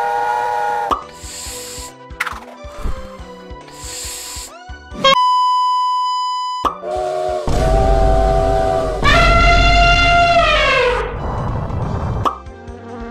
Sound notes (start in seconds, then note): 1.1 peaceful inhale; 3.7 big inhale; 3.7 peaceful exhale; 9.9 elephant noise